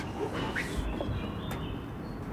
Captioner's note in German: Vogelzwitschern